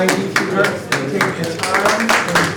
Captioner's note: applause